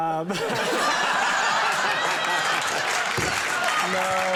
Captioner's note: all laughing